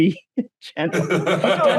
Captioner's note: laughter